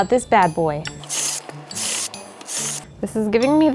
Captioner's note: drill buzzes